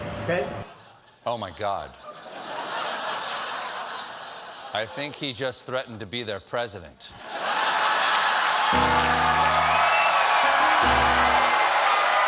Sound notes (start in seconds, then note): 4.5 laughter; 7.8 cheers and applause; 8.8 laughter; 10.4 piano riff